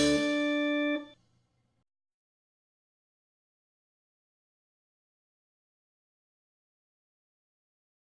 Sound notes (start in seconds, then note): 3.9 silence